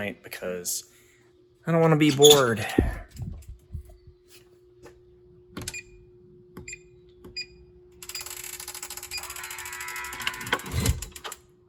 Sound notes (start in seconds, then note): 5.8 digital door lock clicking; 5.8 lock twisting open